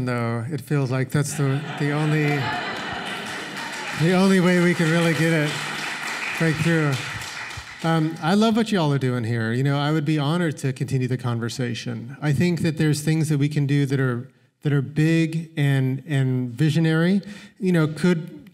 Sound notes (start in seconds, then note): 1.2 laughter; 5.3 applause